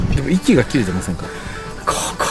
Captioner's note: sigh